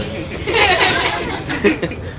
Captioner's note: laughter